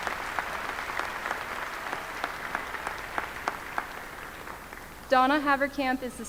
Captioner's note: applause